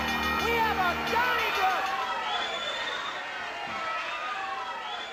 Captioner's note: audience cheering